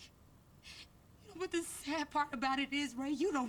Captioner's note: crying